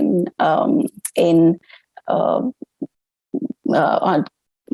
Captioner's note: stammering